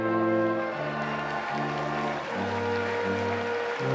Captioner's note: applause